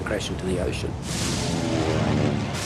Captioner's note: thunder